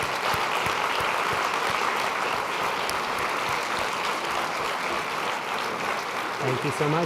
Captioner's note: applause